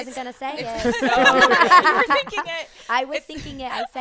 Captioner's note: group laughing